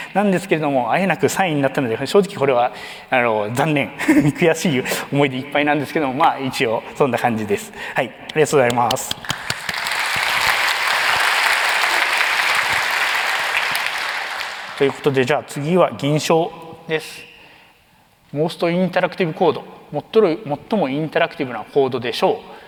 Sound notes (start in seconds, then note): 4.0 chuckles; 8.8 applause